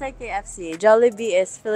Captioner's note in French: en anglais seulement